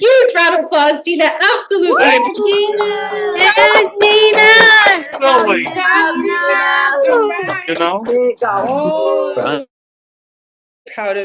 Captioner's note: applause